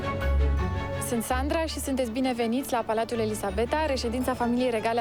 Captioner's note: speaking foreign language